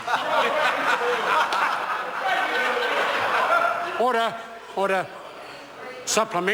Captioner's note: members laughing